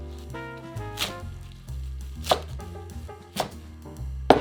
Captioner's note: chopping